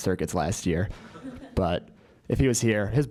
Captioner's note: laugh